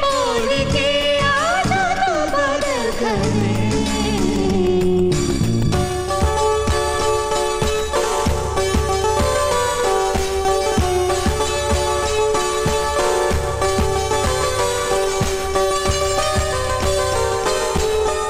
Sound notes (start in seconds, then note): none